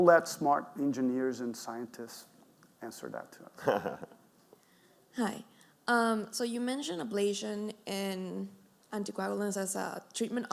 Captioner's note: laugh